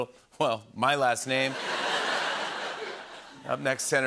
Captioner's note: laughter